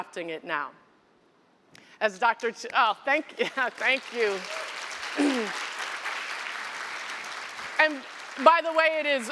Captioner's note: applause